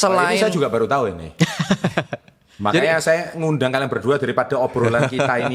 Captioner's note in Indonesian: tertawa